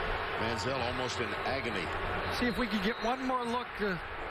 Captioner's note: crowd noise